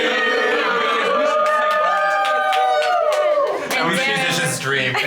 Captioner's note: cast members cheering